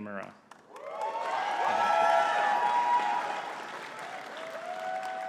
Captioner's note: audience cheering and clapping